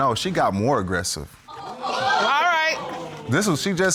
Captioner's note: audience gasping